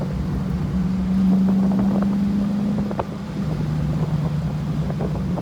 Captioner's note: engine runs